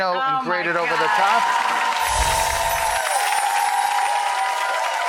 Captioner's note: audience cheering